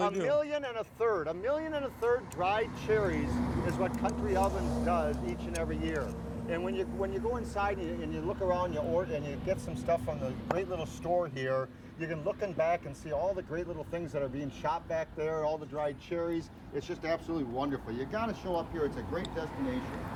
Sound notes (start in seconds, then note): 2.6 car whooshing past